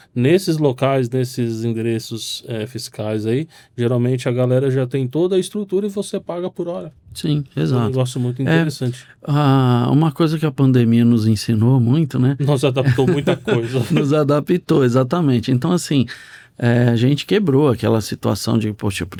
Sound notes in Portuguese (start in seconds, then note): 12.8 risadas